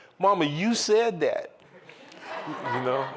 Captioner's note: laughter